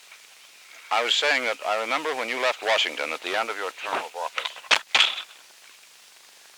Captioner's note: mic drop